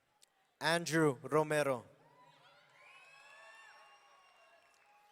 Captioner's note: audience cheering